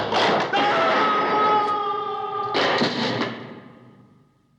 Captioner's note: screams